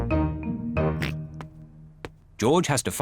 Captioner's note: snorts